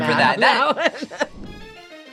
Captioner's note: laughs; upbeat music